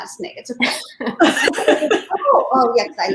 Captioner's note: laughing in unison